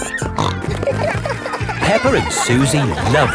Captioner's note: snorting